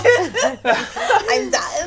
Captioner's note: all laugh